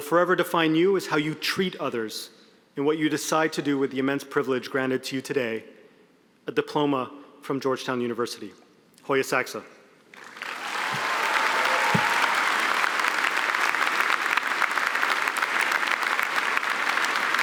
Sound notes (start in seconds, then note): 10.1 applause